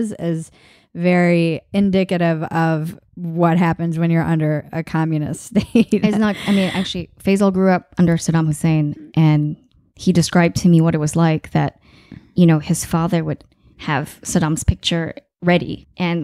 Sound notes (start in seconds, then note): 5.8 laughing